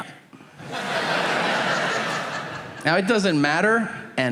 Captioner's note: audience laughing